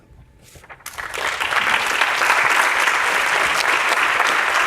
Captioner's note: audience applauding